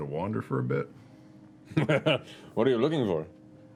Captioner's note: laughter